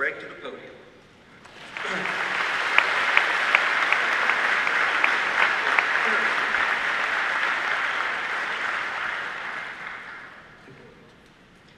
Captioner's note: audience applause